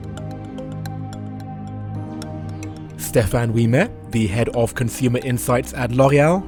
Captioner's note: voiceover